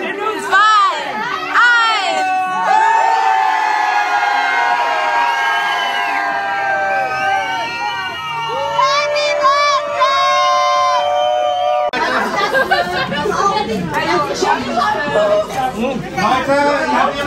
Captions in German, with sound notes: 2 1 (Lautes Jubeln) Happy Birthday!!